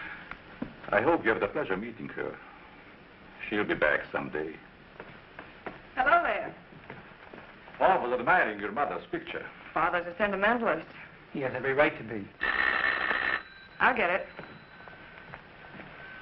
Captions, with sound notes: I hope you have the pleasure of meeting her. She'll be back someday. Hello, there. Paul was admiring your mother's picture. Father's a sentimentalist. He has every right to be. [phone ringing] I'll get it.